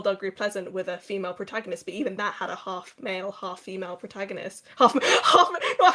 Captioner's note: laughing